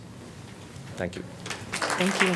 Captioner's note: applause